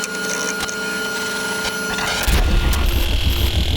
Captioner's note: fan whirring; static flickering